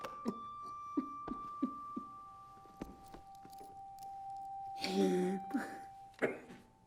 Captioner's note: solemn music; Lance sobbing